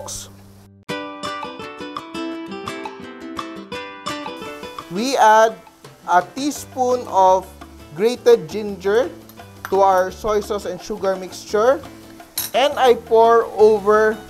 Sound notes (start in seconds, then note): 0.0 sizzle; 4.6 sizzle; 9.8 clang; 10.2 sizzle; 12.4 clang